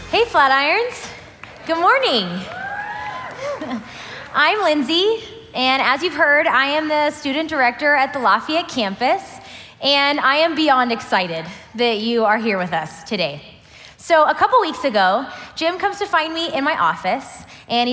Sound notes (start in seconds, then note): 1.2 crowd cheering